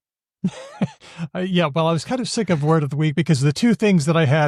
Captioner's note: laughs